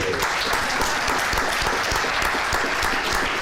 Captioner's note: applause